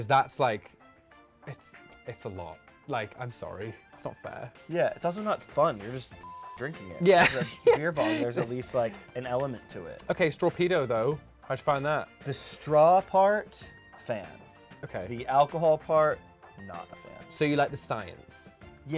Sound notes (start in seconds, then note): 6.2 beep